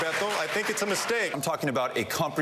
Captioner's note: applause